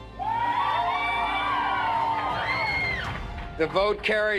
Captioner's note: crowd cheering